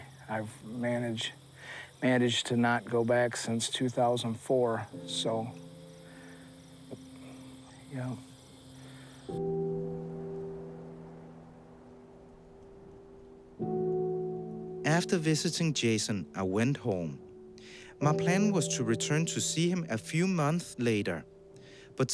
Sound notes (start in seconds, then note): 6.7 wretched music; 9.6 wind murmurs